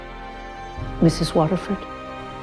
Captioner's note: voiceover